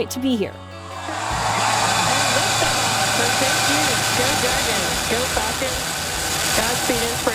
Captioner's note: engine revving